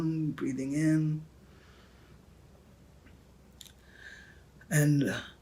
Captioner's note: deep inhale